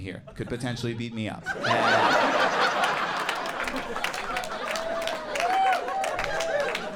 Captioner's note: audience laughs and applauds